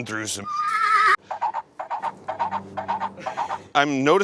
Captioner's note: dans horse makes galloping sounds